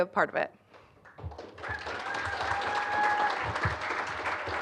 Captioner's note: applause